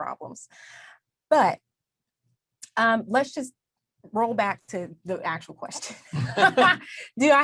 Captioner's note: both laugh